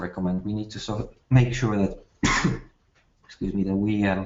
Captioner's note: coughs